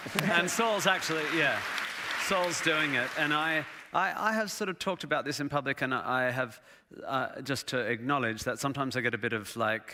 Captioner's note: applause